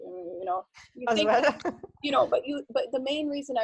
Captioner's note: laughing